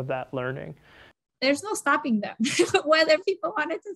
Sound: laughs

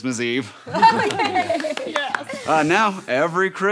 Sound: laughing

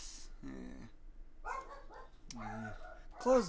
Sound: dog barking

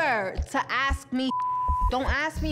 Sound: beep

